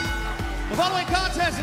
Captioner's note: bell ringing